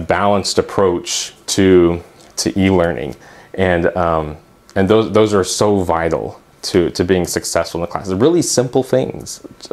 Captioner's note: uumm